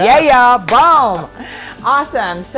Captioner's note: high five slapping sound